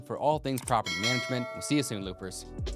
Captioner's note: bell dings